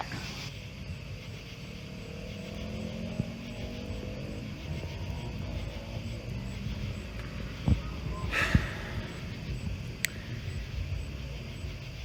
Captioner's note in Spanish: Charla indistinta